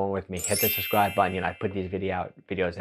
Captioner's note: bell chiming